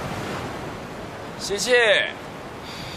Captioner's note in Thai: หายใจเข้า